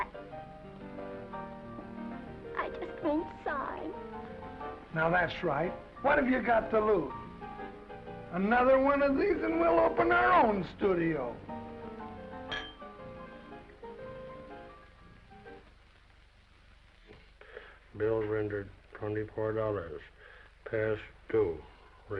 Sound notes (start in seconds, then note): 0.1 gentle music; 12.4 glasses clinking; 13.3 gentle music